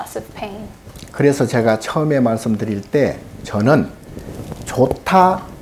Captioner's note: speaking Korean